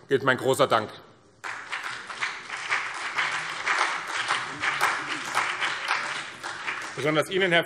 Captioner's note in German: Beifall BÜNDNIS 90/DIE GRÜNEN und vereinzelt CDU